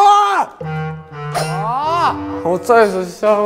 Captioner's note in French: Whimpering